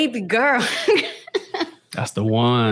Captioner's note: laughs